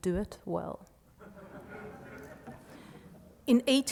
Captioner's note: laughing